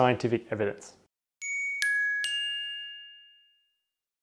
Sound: bell chimes

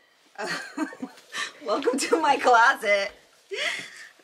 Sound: laughs

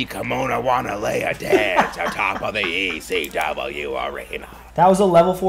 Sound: laugh

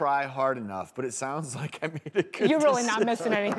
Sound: laughing

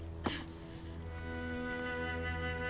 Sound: none

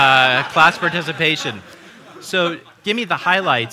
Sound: laughter

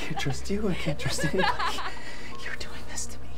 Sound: Martha sobs

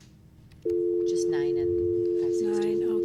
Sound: dial tone

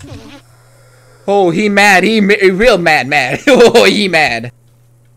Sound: nervous laugh

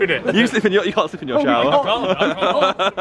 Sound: laughing

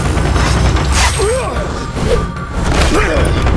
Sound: grunting

